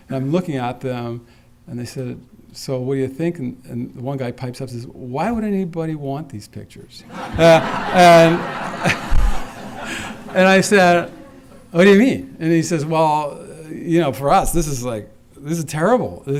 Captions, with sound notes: Now I'm looking at them and they said, so will you think and the guy pipes up and says, why would anybody want these pictures? [Laughter] And I said, what do yu mean? and he says, well, you know, for us, this is like-- this is terrible.